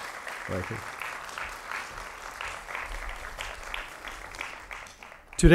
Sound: applause

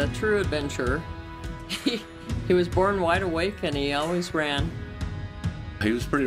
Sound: laughter

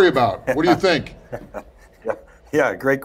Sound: chuckles

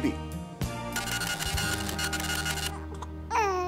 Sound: scratching noise; baby coos

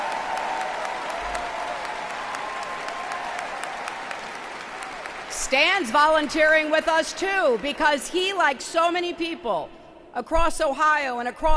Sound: applause

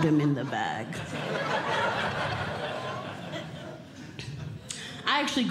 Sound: audience Laughing

